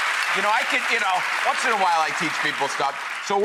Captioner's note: applause